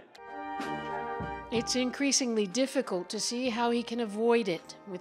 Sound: speaking Foreign Language

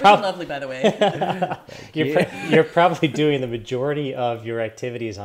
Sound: laughs

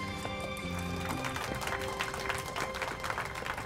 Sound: applause

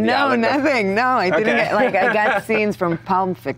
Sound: laughs

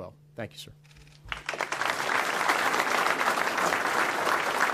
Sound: audience applauds

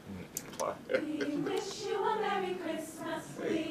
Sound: chuckling

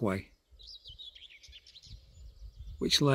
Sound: birdsong

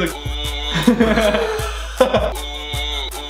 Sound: laughing

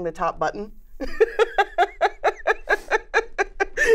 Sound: laughs

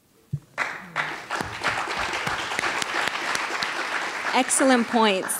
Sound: audience applauding

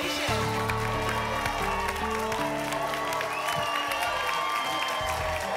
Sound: applause and cheering

